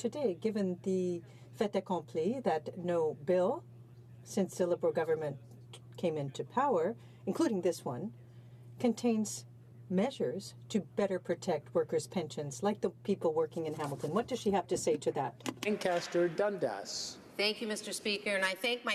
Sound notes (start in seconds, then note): 9.3 speaking in french